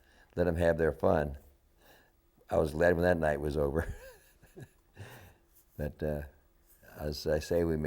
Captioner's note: laughter